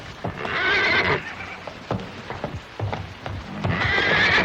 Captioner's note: horse neighing